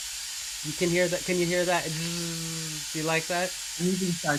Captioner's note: buzzing